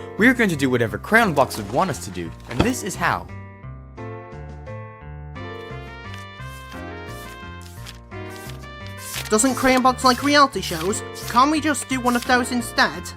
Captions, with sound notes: We are going to do whatever Crayon Box would want us to do, and this is how. *pages flipping* Doesn't Crayon Box like reality shows? Can't we just do one of those instead?